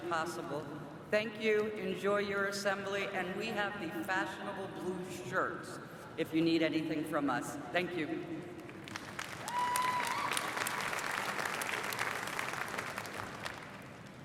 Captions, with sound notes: WE'RE GLAD YOU'RE HERE. IF THIS IS YOUR FIRST GENERAL ASSEMBLY R.R. ARE GENERAL ASSEMBLY, PLEASE RAISE YOUR HAND. [APPLAUSE] IS THIS ANYBODY'S SECOND?